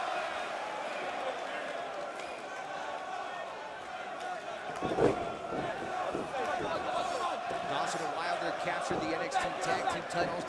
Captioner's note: crowd cheering